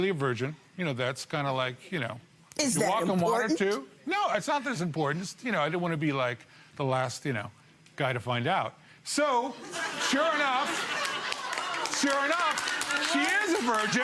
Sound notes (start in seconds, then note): 9.6 audience laughs